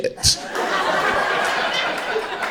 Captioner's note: crowd laughter